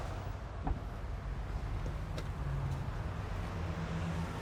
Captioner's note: car door clicks